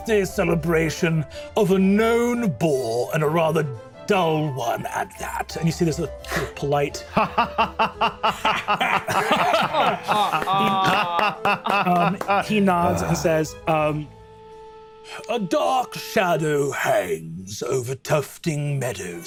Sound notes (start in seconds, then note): 7.0 laughs uproariously; 9.8 claps